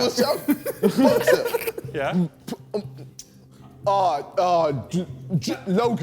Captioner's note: men laughing; JJ stuttering